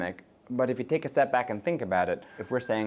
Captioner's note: siren blaring